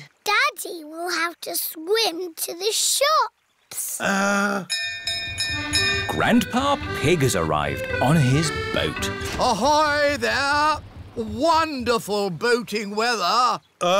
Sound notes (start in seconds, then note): 4.7 bell rings